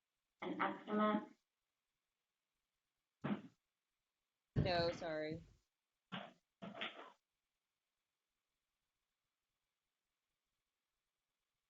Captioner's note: pause